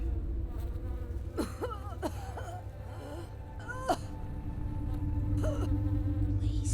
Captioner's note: flies buzzing; woman coughing